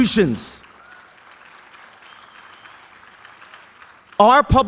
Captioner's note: applause